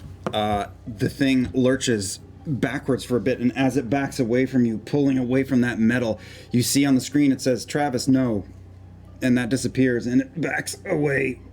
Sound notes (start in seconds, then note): none